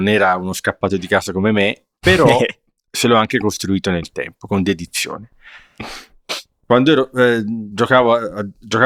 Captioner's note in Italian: sbuffare